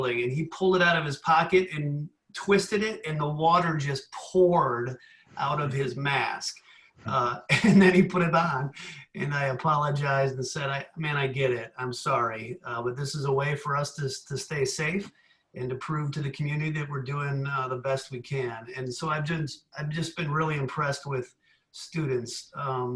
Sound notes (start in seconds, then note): 7.1 giggles